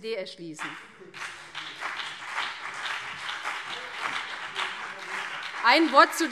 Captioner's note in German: Beifall BÜNDNIS 90/DIE GRÜNEN und CDU